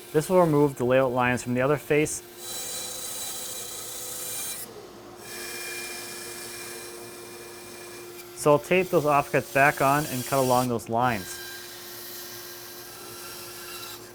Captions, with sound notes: This will remove the layout lines from the other face, (high pitched sawing) so I'll tape those offcuts back on, and cut along those lines.